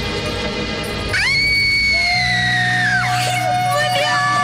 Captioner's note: Durga screaming